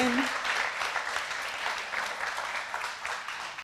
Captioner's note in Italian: Applausi